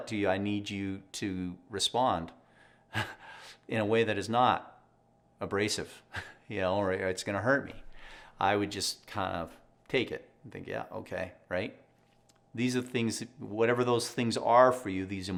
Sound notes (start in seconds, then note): 3.0 laughs; 5.9 laughs